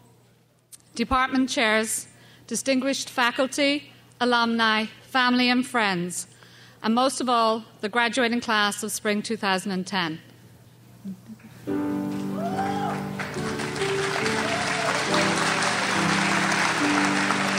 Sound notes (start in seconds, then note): 13.8 crowd applauds